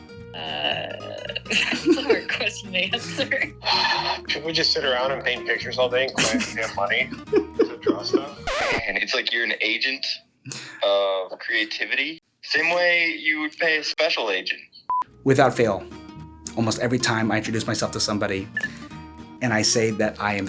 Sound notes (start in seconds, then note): 3.0 exhales